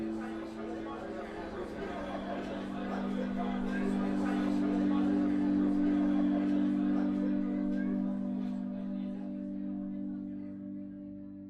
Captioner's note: sound of students mingling fades to silence